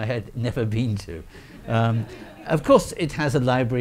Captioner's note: audience laughing